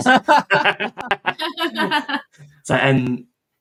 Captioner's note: laughing